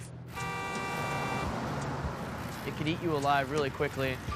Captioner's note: taxicab horn honks